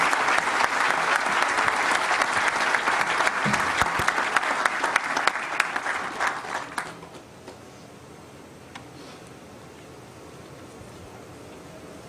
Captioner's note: applause